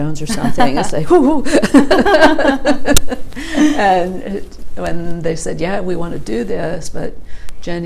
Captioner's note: laughter; laughs